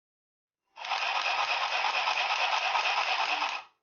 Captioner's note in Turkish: dikiş makinesı sesi